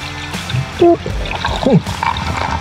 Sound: bloop

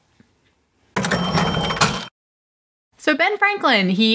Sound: cash register opening

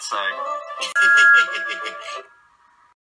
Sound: thomas whistles and laughs

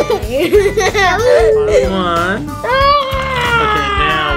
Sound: child laughing

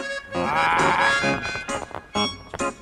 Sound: frustrated noises

